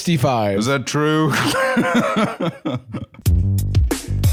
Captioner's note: laughs